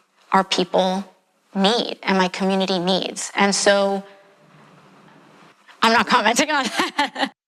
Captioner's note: laugh